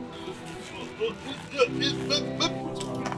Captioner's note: struggling sounds